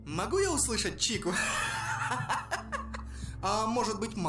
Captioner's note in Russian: дебильный смех